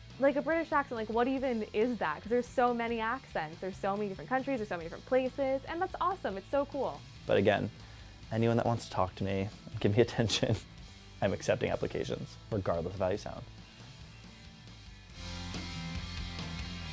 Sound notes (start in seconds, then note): 9.8 laughs; 13.6 energetic rock music